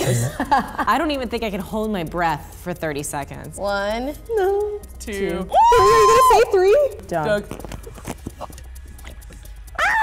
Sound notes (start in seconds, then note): 0.0 laughing; 5.5 screaming